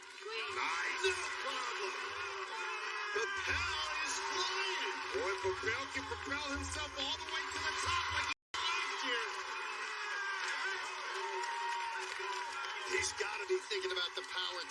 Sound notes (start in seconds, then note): 8.5 cheers and applause